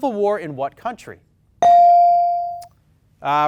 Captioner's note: bell dings